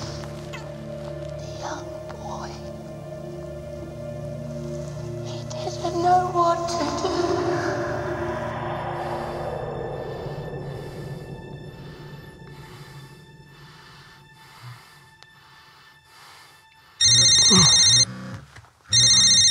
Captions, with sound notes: The young boy, he didn't know what to do. (breathes heavily) (phone rings)